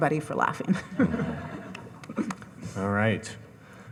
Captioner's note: audience chuckling